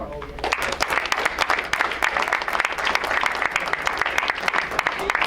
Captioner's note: crowd applauds